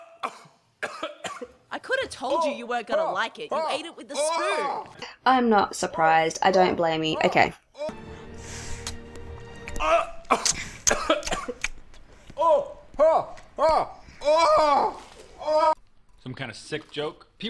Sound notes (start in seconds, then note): 9.6 gagging and groaning